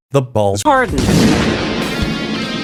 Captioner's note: fart woth reverb.mp3